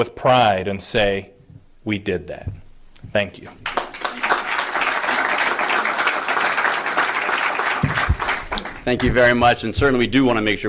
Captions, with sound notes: with pride and say we did that. Thank you. (APPLAUSE) >>:Thank you very much and certainly we do want to make